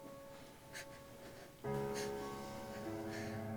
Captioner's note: crying